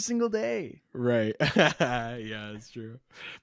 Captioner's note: laughs